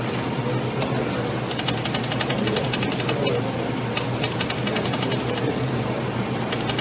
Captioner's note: vibrating sound